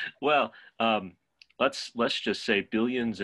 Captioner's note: laughs